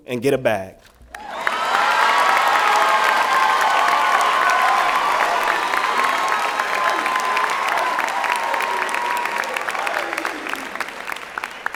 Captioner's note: applause and Cheering